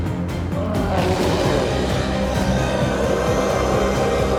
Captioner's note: intense music continues; chef roars